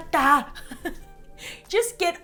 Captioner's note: laughs